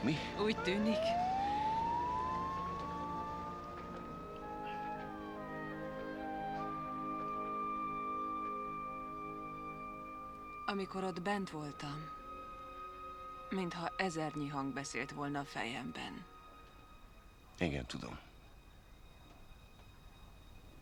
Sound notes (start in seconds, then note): 1.8 siren blaring